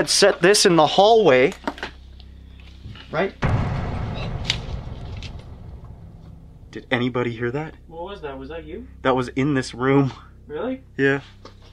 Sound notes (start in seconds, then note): 3.4 loud bang